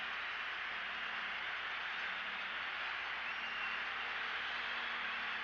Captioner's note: fans cheering